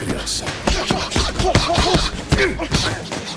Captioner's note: grunting continues